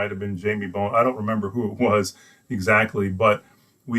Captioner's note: laughs